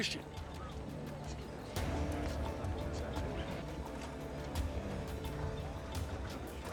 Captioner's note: indistinct chatter